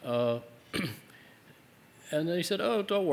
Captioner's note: cough